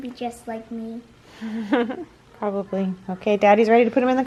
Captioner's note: laughs